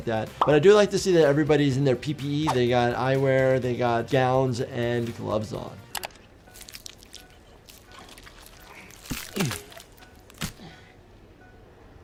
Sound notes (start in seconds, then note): 6.1 pulse monitor beeping; 6.5 flesh squishing